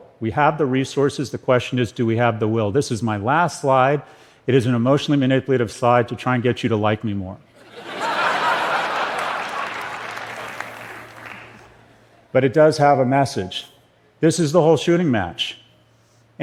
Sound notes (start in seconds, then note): 7.6 laughter